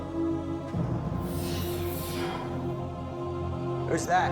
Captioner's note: clanking